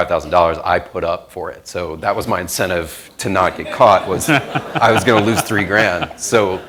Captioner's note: laughter